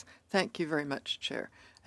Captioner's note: speaking in French